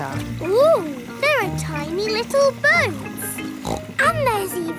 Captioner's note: snorts